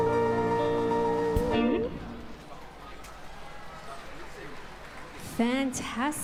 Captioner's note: applause